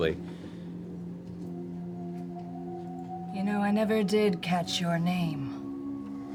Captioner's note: deeper voice